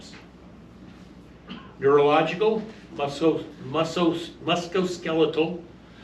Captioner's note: stammers